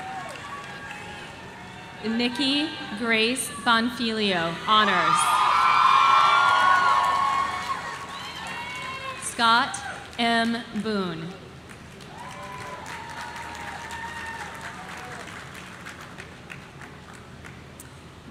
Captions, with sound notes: Nikki Grace Bonfilio, Honors. (audience cheering) Scott M. Boone.